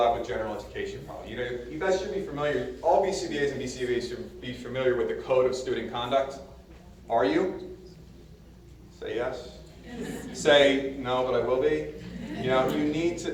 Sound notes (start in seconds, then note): 9.6 audience murmurs agreement; 12.3 audience laughs